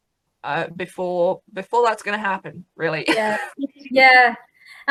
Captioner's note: laughs